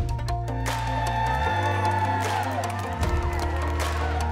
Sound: people cheering

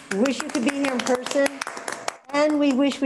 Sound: all applauding

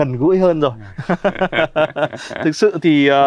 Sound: laughing

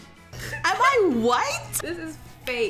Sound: laughs

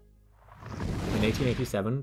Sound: explosion

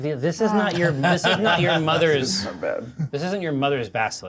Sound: co-host laughing

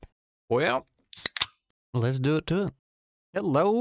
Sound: soda opens

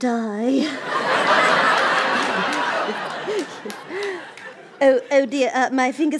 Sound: laughter

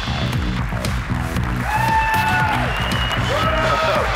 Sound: cheering and applause

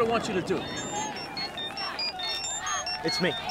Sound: phone ringing

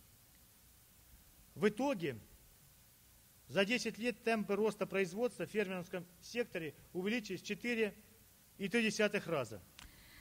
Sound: speaking Russian

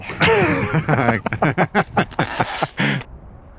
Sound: both laughing

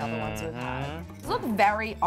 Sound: hums in agreement

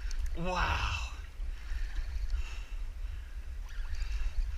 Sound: line reeling

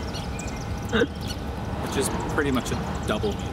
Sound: none

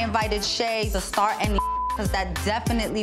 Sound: beep

